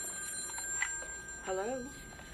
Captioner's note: phone ringing; phone clicks